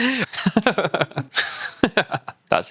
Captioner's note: laughs